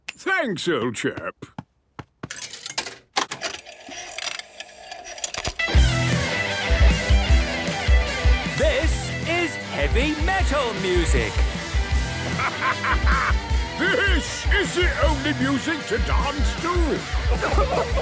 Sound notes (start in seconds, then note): 3.1 clicks, whirring; 5.1 heavy metal music plays; 8.7 shouting